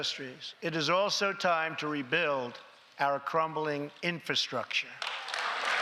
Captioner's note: applause